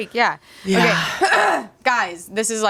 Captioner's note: clears throat